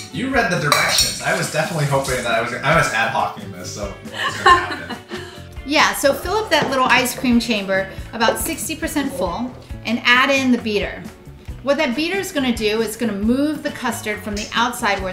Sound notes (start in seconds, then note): 4.0 laughs